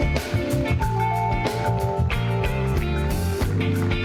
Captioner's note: cheers and applause